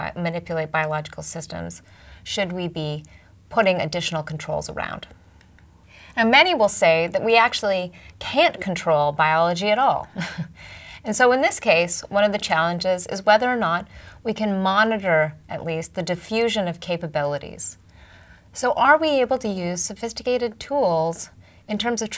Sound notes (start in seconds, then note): 10.2 laugh